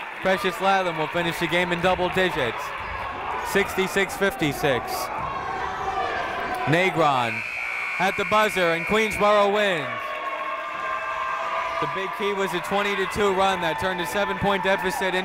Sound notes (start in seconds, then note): 0.0 crowd clapping; 7.2 buzzer ringing; 10.3 people cheering in the crowd